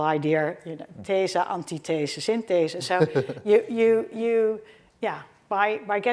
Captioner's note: speaking in foreign language